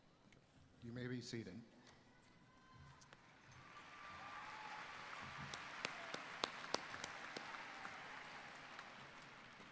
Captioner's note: applause